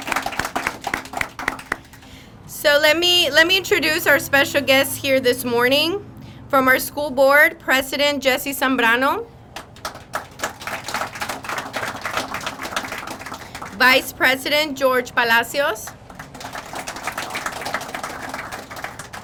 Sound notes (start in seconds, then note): 9.5 crowd applauding; 15.8 crowd applauding